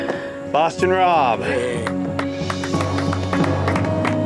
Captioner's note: all clapping